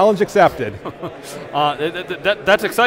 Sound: laughter

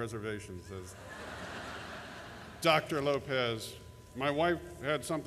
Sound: laughter

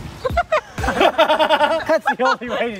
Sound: boys laughing

